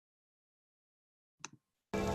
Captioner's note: click